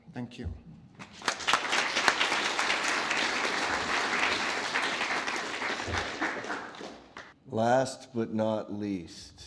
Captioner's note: applause